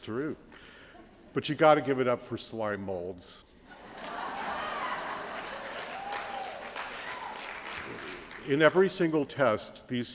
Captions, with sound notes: -It's true. But you gotta give it up for slime molds. -[laughter] -In every single test,